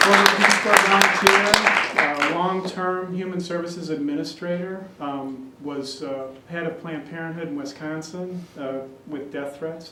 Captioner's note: applause